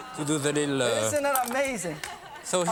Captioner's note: audience awehs